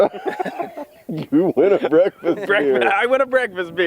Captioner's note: laughs